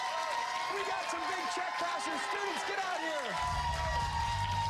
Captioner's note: cheers and applause